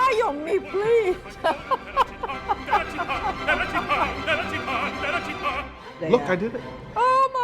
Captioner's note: laughs